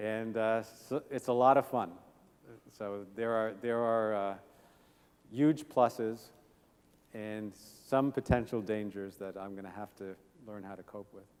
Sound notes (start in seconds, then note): none